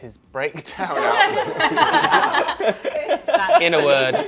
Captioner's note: laughter